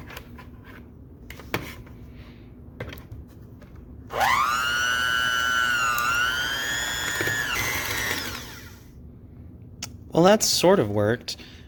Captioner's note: mixing noises